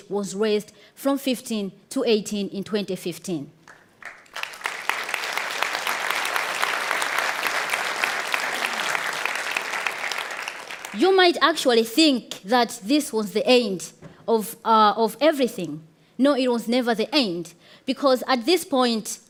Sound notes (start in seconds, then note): 3.7 audience applauds